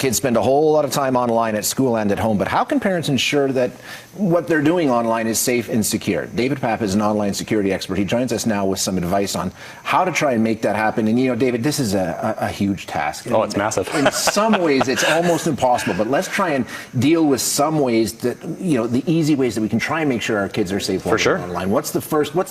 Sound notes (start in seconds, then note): 13.5 laughs